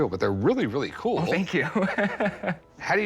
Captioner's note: laughs